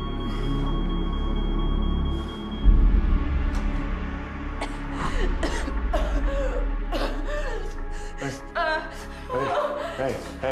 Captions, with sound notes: -[ Coughing ] -Hey. Hey. Hey, hey.